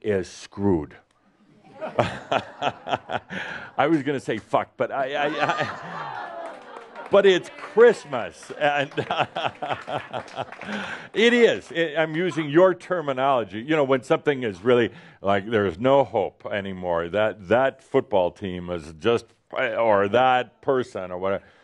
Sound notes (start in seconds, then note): 1.6 laughter; 5.0 more laughter and applause; 8.4 Adamus laughs